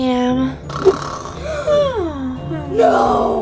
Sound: snoring

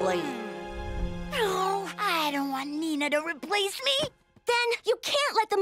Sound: sighs

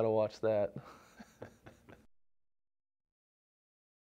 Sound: laughter

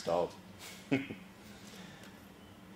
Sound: laugh

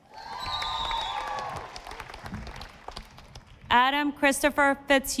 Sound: audience applauding

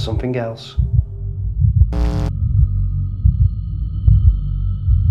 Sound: heart beating

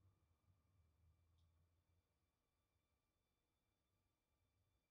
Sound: none

